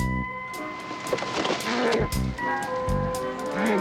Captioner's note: muttering